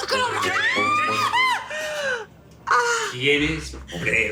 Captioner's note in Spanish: Grito